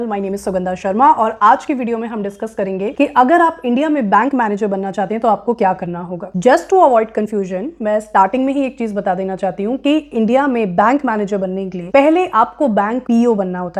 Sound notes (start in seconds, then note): 1.3 speaking hindi; 8.8 speaking hindi